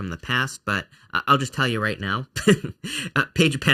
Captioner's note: laughs